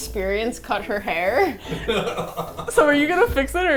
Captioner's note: laughs